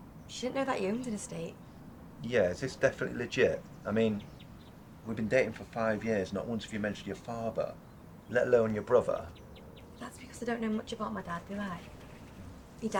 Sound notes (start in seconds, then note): none